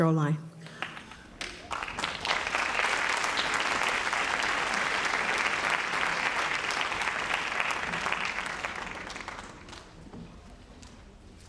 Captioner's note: audience applauding